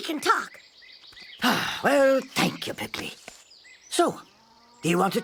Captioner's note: sigh